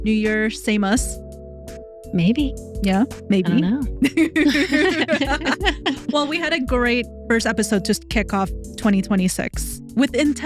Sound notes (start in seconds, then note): 4.0 both Laughing